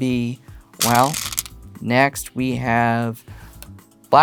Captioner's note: stones rattling